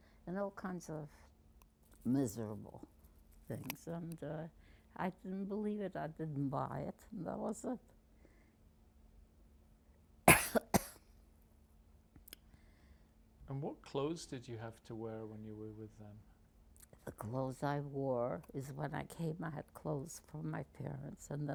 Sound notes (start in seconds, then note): 10.2 coughing